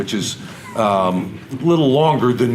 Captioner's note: audience laughter